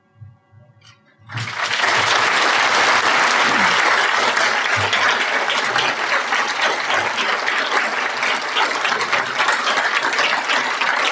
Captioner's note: applause